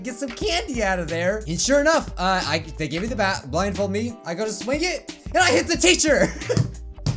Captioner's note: pounds fists twice